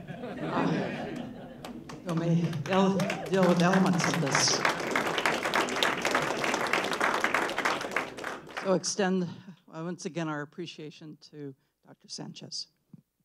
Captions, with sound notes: [ Laughter ] [ Applause ] We'll extend, once again our appreciation to Doctor Sanchez.